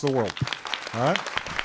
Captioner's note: applause